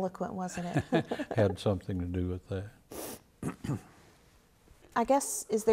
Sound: laughs

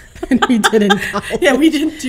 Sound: laughing

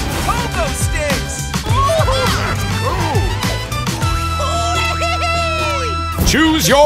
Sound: cheering

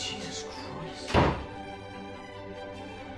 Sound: door bangs

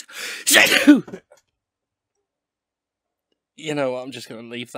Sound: achoooo

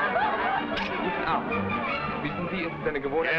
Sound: partygoers shouting and yelling; man speaking foreign language

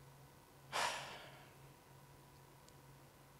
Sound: sighs

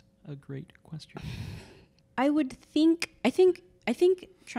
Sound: chuckles

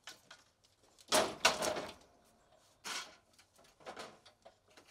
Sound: siding clunks

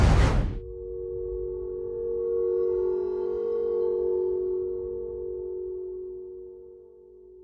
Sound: loud ringing

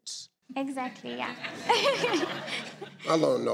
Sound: laughing

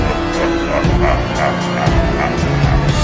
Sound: laughter

